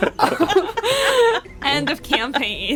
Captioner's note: laughter